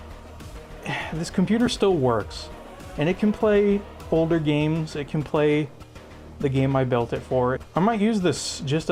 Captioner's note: sigh